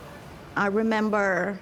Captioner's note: indistinct chatter